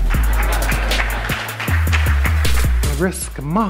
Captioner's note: audience applauds